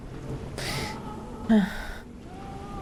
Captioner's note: sigh